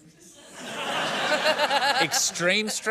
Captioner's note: laughter